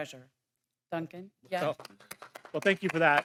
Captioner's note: clapping